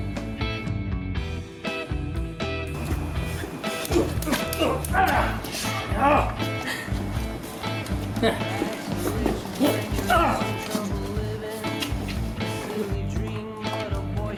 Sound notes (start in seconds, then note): 3.9 grunting; 6.1 groaning; 9.5 grunting